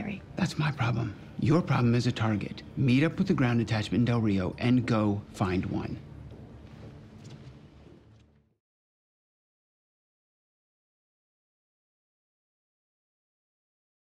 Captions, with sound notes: - That's my problem. Your problem is a target. Meet up with the ground attachment in Del Rio, and go find one. (dramatic music) (footsteps tapping) - You got your kit in the car?